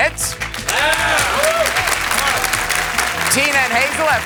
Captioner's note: cheers and applause